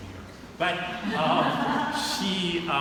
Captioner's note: audience laughing